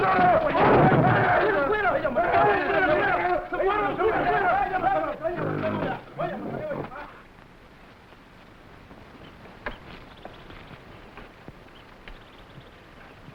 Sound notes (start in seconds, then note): 5.7 gorilla groaning; 9.6 animals chattering